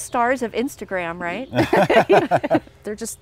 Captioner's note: everyone laughs